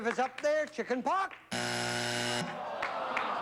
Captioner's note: buzzer